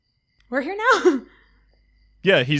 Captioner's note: chuckles